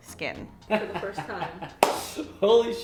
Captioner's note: laugh sounds